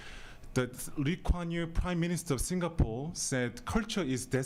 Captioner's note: talks quickly